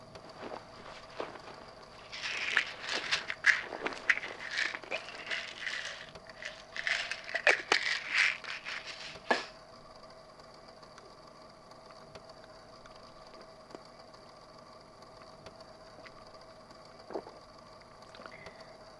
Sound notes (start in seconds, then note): 0.1 rustling; 2.1 pill bottle rattles